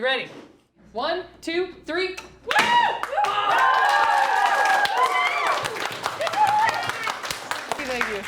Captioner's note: students cheer